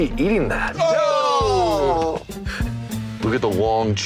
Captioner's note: cries of disgust